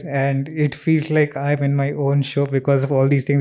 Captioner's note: speaks in Hindi